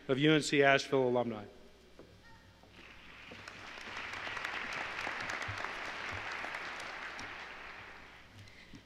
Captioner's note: applause